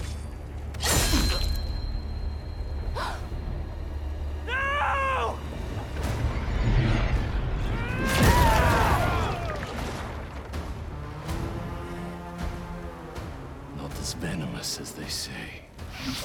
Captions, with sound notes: (gasp) NO!!!! Not as venomous as they say.